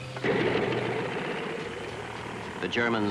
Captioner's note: airplane engines whirring